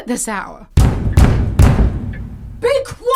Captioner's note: knocking, banging